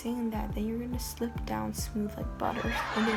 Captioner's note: hhahahaa